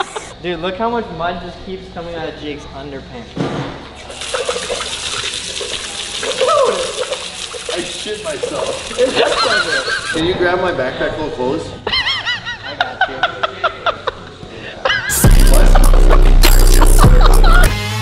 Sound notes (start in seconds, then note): 12.4 cackles; 15.1 rock music